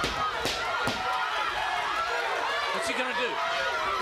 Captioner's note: crowd chatter